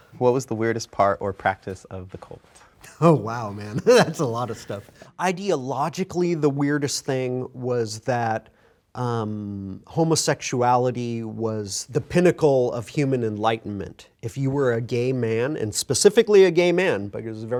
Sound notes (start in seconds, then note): 3.0 chuckles